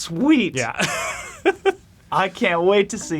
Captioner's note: laughs